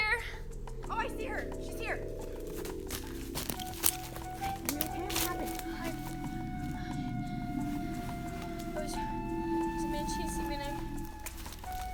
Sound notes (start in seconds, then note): 3.6 sticks crackle